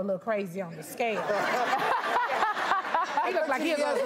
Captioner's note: audience laughs